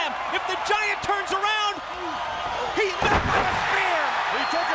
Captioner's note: crowd cheering